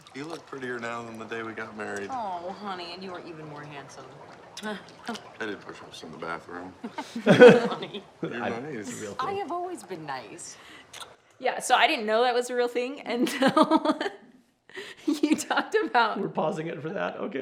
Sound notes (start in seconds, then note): 6.8 both laugh; 15.0 laughs